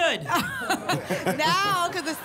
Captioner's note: laughter